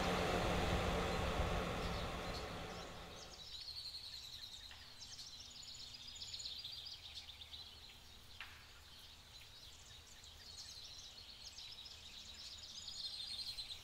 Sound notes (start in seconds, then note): 4.1 birds chirping